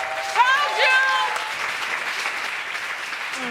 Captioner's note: crowd applauds